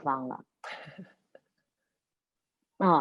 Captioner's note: laughs